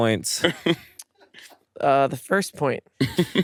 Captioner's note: laughs